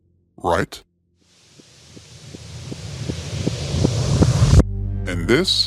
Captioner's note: rising hiss